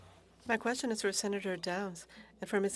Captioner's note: speaking FRENCH